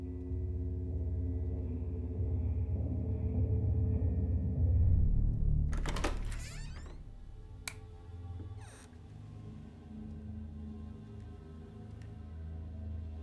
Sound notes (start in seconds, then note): 0.1 ominous music plays; 5.6 door creaks; 7.6 light clicks